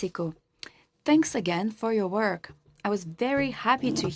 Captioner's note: speaking French